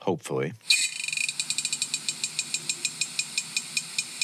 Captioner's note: metal rattling